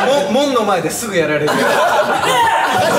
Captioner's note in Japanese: 笑い